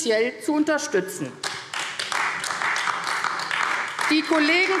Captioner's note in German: Beifall AfD